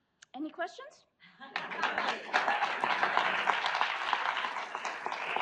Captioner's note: audience applauds